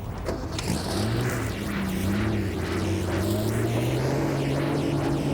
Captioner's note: car engine rumbling